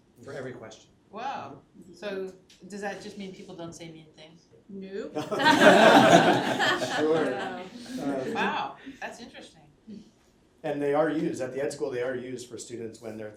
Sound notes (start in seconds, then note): 5.2 laughter